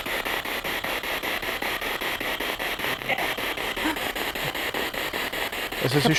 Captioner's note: noise of the spiritbox in the background